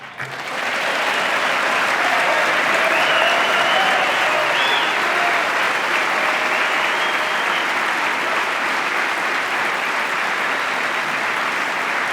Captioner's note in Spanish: aplauso